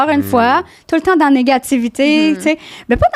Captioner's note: in french